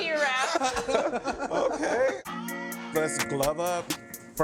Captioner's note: laughing